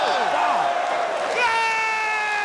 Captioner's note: crowd cheering